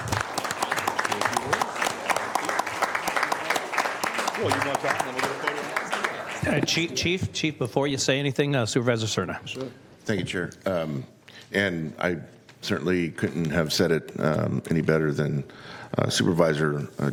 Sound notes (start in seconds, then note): 4.6 applause